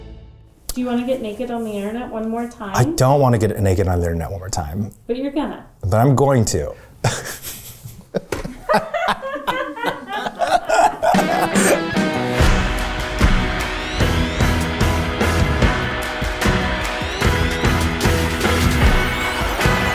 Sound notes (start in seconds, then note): 7.0 laughing; 7.0 producer laughing; 12.5 upbeat music